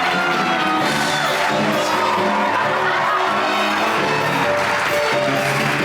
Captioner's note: lively music; audience cheers and applauds